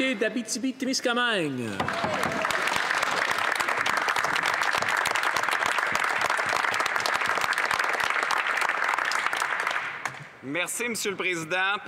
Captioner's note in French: voix de l'interprète